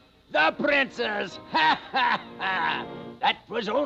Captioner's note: cackling